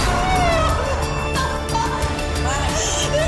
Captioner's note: crying